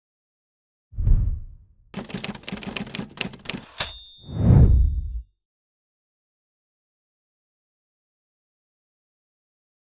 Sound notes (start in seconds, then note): 1.0 whooshing; 1.9 typing